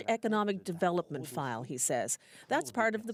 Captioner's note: speaking French